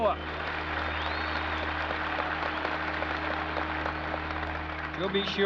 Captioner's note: applause